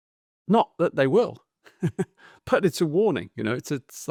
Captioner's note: laughs